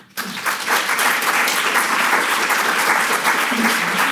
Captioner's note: audience applauds